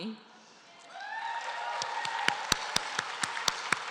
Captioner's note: applause